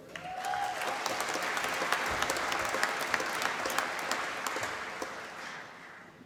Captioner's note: applause